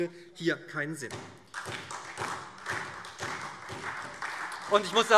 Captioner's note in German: Beifall SPD, Freie Demokraten und DIE LINKE